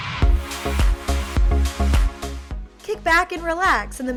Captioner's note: whoosh